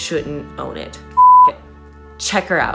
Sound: beep

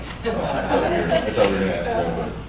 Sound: laughter

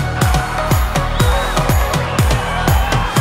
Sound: cheering

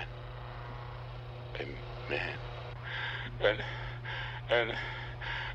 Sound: sobs

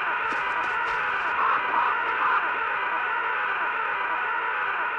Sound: scream echoes; bird squawk

